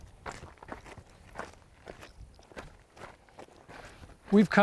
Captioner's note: footsteps crunching